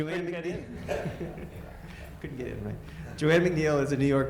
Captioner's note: audience laughter